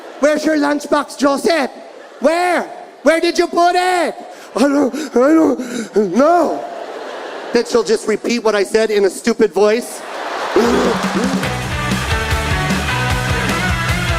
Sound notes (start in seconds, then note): 9.8 audience laughing; 10.5 upbeat music